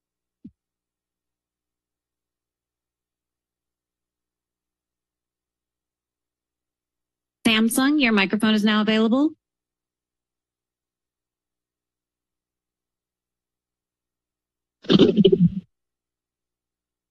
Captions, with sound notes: [silence] [silence] - Samsung, your microphone is now available. [Silence] [microphone rustling]